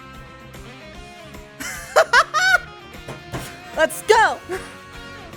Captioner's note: laughter; slamming arm rest